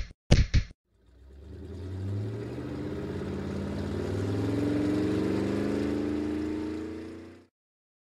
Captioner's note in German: Motorengeräusch